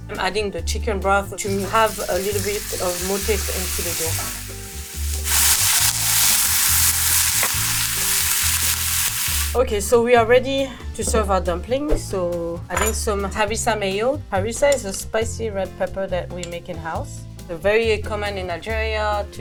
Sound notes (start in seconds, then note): 5.5 pan sizzling